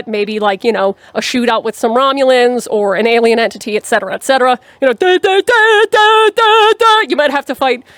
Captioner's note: nerdy Noises